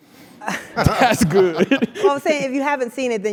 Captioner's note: laugh